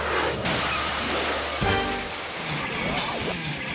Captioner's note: engine explodes